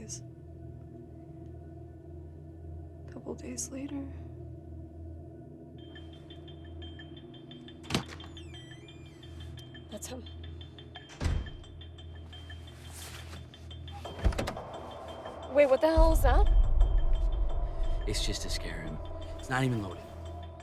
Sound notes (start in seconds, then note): 0.3 tense music; 4.6 tense music; 11.1 door slams; 12.0 tense music; 14.1 door unlatching; 20.4 tense music